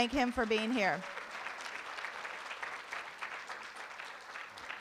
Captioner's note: room applauds